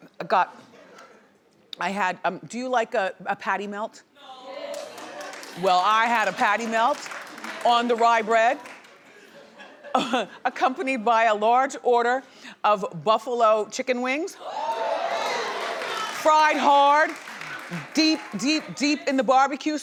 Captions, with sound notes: I had, do you like a patty melt? (audience applauding) Well, I had a patty melt on the rye bread, accompanied by a large order of buffalo chicken wings, fried hard, deep, deep in the barbecue sauce,